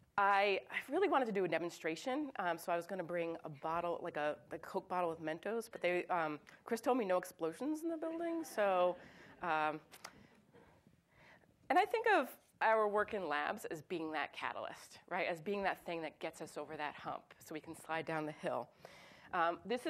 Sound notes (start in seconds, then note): 8.8 audience chuckles